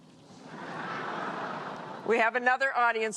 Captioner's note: laughter